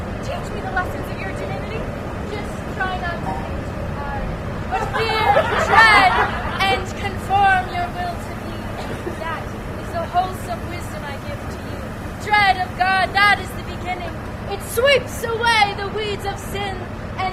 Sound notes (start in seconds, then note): 4.7 laughter